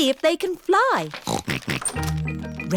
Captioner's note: snorting